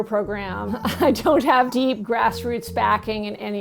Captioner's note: chuckles